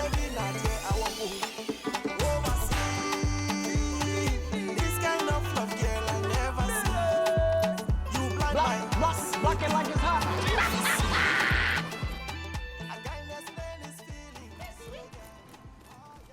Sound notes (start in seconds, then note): 9.5 laughing